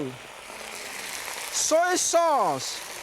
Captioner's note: oil sizzles